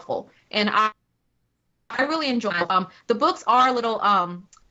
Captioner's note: technical interference